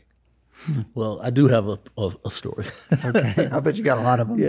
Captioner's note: laughs